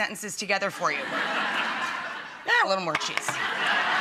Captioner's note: audience laughs